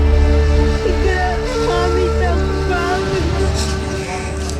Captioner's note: woman cries